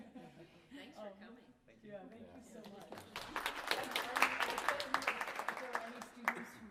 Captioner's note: applause